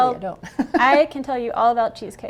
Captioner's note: laughing